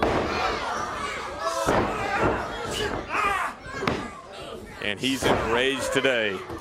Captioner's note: crowd chatter